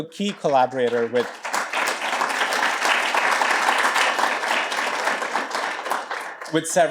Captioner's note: applause